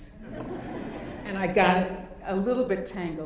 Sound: audience laughing

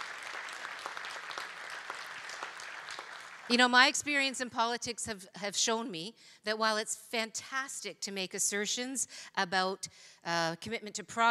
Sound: cheering and Applause

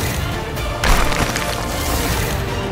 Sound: thud

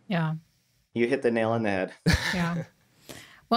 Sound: laughs

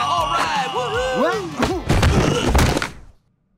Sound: grunting

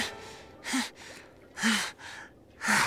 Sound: heavy breathing

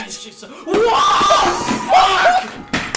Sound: stumbling and crashing sounds

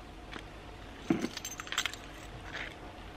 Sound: keys jingle

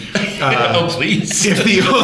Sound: laughter

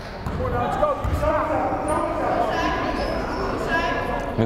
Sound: fans shouting

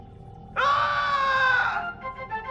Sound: scream

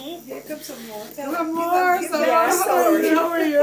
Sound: laughter

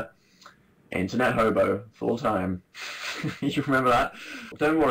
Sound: laughs

